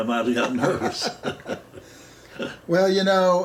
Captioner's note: laughing